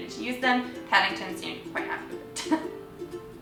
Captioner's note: giggles